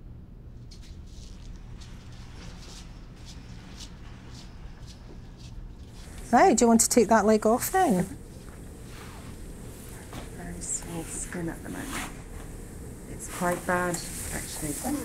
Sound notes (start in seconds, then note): 0.8 squeaking footsteps